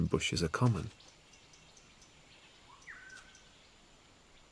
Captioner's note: birds chirping